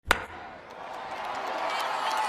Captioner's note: ball cracking; applause